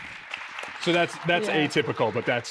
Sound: audience clapping

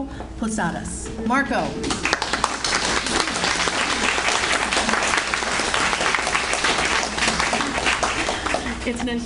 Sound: audience Applauds

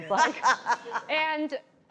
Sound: laughs

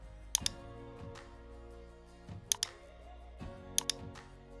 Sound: mouse clicking

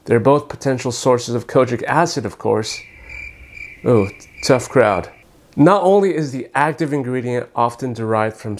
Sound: cricket

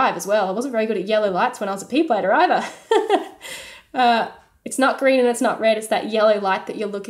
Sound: laughing

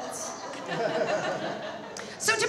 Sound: audience laughs

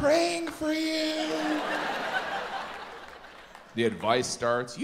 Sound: audience laughs

